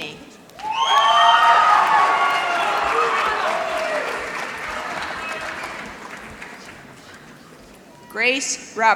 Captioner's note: applause